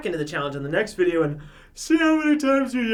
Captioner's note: yawning